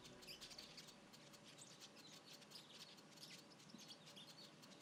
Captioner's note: birds chirping